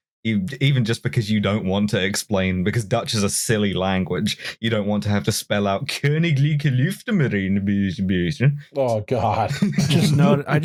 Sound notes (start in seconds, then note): 5.9 comically Dutch accent; 9.4 laughter